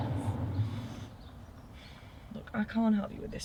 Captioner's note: sighs